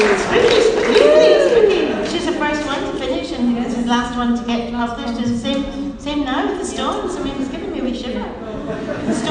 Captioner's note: laughing; a few laughs